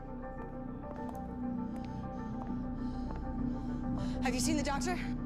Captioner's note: taking deep breaths